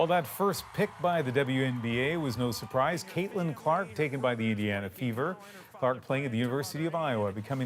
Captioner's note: cheers and Applause